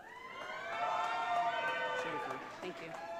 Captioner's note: audience cheering